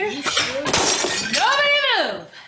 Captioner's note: plates crashing